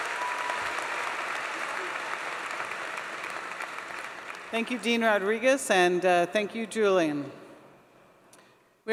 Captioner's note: applause